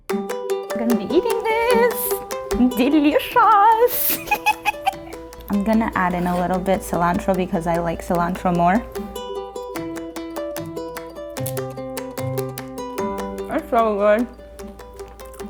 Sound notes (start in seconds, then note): 0.2 upbeat music; 3.6 laughs; 9.9 upbeat music